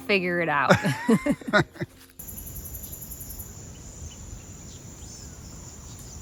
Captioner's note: laughing; birds chirping